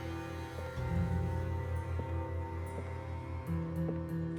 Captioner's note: footsteps